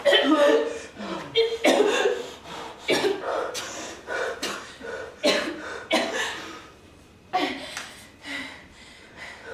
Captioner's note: wheezing and coughing; distressed breathing; coughing and gagging